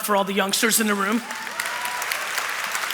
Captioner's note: cheering; applause